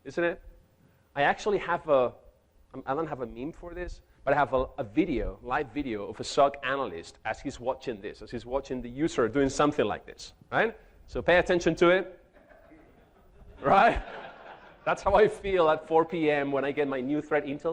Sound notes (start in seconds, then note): 12.3 chuckles; 12.4 audience laughing; 12.5 speaks off microphone